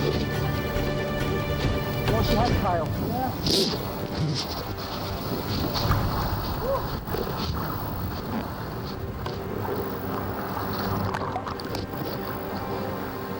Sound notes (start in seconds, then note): 0.2 intense music; 3.9 water splashing